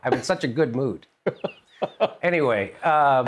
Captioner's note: laughter